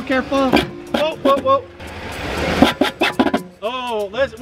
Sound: metal scrapes on pavement; car engine revs; metal scrapes on pavement

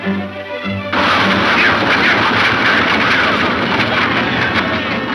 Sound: shots fire

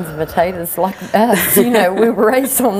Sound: chuckles

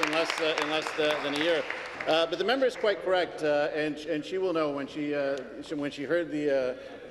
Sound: some Applause

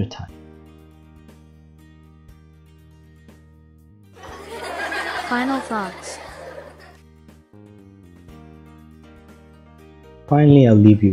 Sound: kids laughing

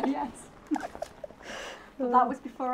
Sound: both laugh

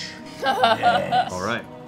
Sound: laughing

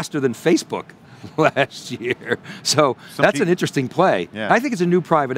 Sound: laughs

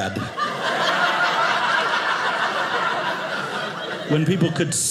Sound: audience laughing

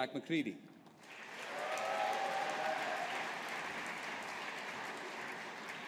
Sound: audience applauding

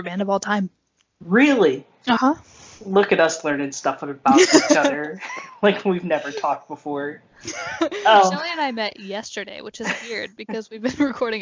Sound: both laugh

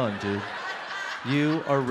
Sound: audience laughs

